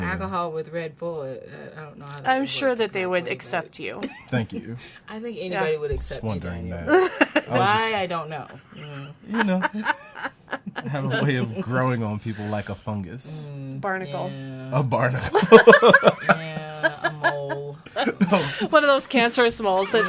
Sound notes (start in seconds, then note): 8.8 laughs; 15.3 laughs